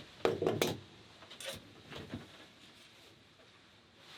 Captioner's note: objects clatter